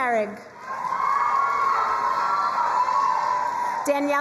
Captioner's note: crowd cheering and applauding